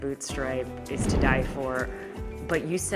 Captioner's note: graphics whooshing